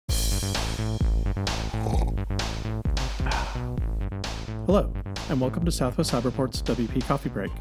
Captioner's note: slurp